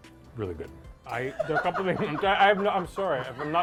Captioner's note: laughing